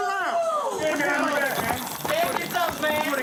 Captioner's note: yelling